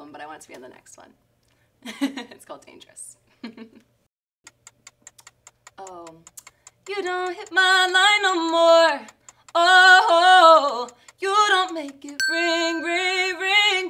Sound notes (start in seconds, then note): 3.7 clock ticks; 12.2 bell rings